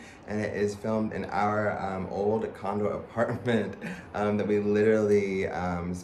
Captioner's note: laughs